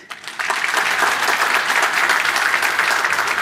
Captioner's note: applause